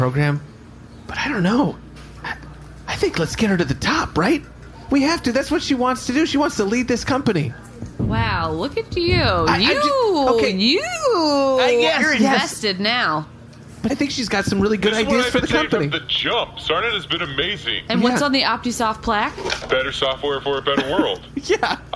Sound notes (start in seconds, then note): 12.5 excited